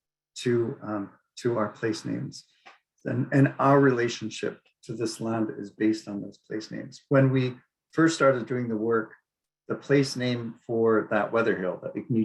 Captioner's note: speaking Inupiaq